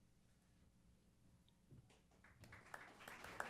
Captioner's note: applause